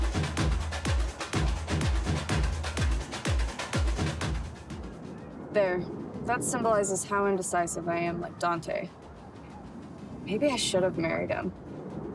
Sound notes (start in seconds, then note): 4.6 music fades; 4.6 wind blows